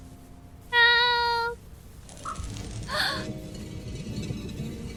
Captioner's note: gasps; sound of sliding stone door